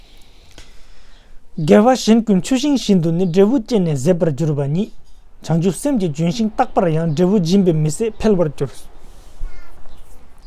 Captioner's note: tibetan